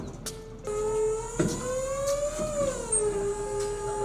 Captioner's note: motor whining